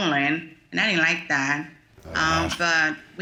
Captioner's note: groaning